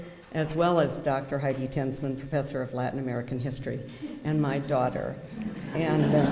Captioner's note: laughter